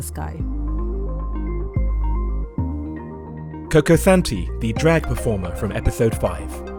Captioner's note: voiceover